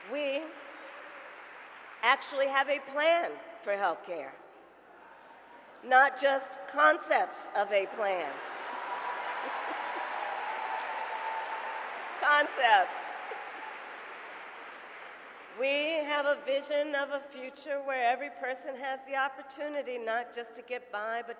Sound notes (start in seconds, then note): 8.2 laughter and applause